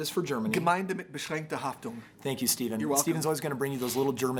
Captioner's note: speaks German